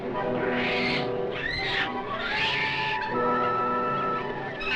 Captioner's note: monkey screeches